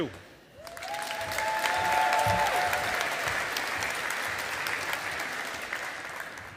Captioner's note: audience applauding